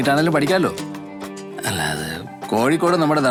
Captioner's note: stammers